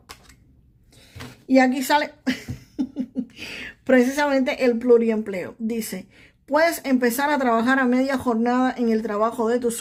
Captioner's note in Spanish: risas